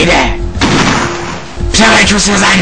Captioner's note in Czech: Výstřel